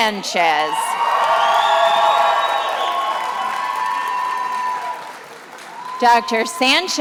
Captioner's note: attendees applauding and cheering